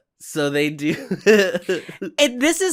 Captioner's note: chuckles